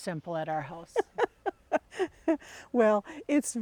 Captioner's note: laughing